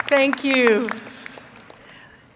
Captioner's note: applause